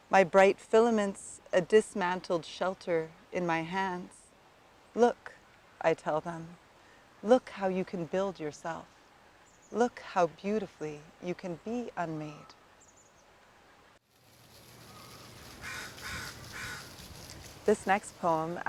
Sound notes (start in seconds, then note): 14.6 crow cawing & water trickling